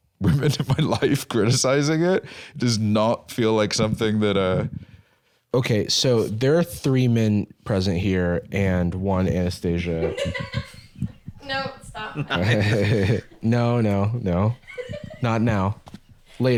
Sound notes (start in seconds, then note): 9.8 laughs; 12.4 chuckles